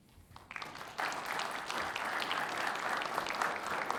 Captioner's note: audience clapping